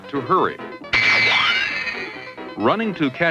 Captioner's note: zoom!